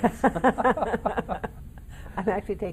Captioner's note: laughing in unison